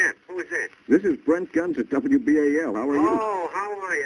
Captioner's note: on phone